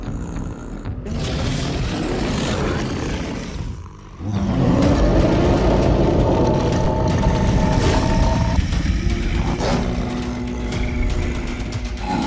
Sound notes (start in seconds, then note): 2.7 snarling; 6.1 growling